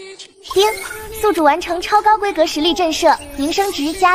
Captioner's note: ding!